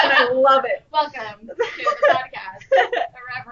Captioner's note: laughter